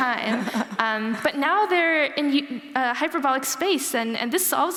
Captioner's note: laughter